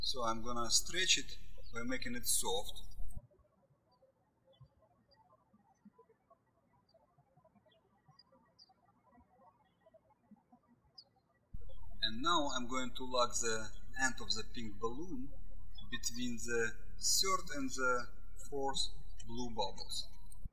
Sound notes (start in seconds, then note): 3.5 birds chirping